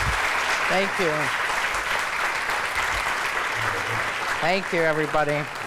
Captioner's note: applause